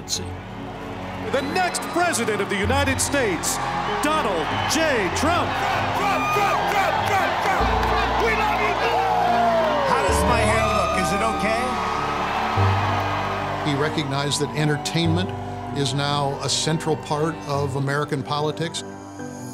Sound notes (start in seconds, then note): 5.8 chanting; 11.8 crowd cheers